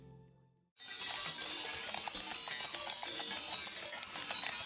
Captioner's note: chimes ringing